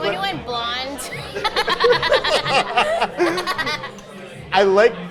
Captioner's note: both laughing